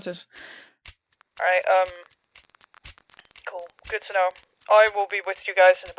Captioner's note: over the phone